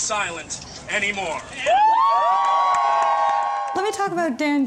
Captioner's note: cheering